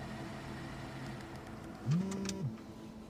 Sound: phone vibrates

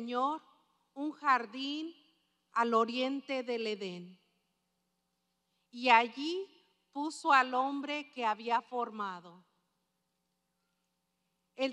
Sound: speaking spanish

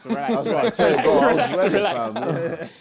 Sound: crowd mumbling

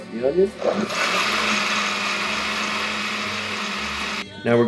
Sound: blender whirring

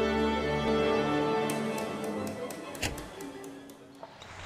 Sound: baton taps

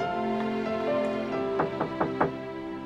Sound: knocking at door

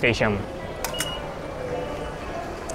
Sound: beeps

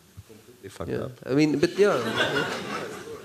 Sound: laughter

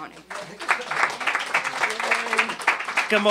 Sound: applause

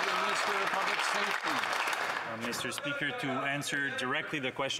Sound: applause

